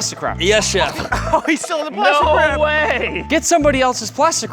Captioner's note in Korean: 웃음